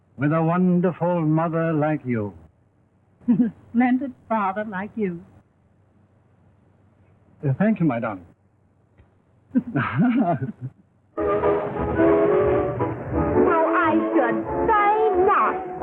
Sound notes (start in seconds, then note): 9.5 laugh